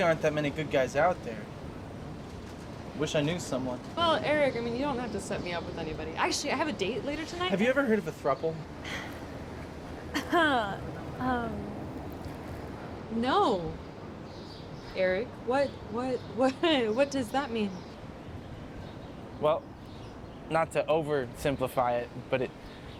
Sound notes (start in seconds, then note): 10.1 Fern laughs